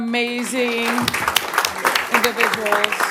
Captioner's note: applause